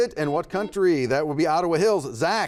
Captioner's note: buzzer buzzes